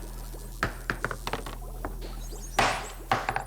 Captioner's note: clattering